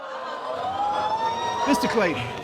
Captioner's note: audience whoops